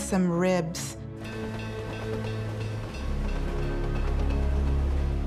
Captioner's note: bell rings; train chugs